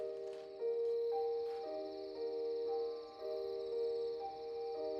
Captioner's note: insects chirring